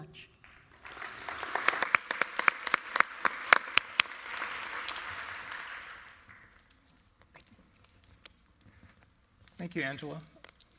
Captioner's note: applause